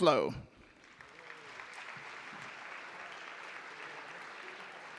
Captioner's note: audience applauding